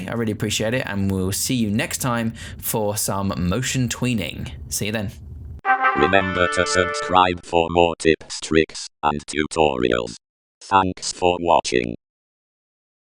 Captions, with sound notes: I really appreciate it, and we'll see you next time for some motion tweening. See you then. (trumpet fanfare) >> (electronic voice) Remember to subscribe for more tips, tricks, and tutorials. Thanks for watching.